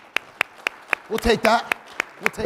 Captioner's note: audience applauding